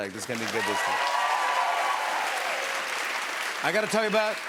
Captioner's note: cheers and applause